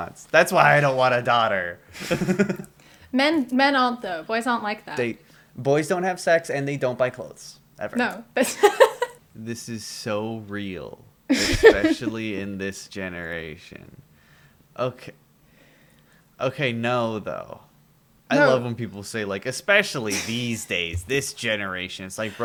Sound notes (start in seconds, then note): 8.4 laughter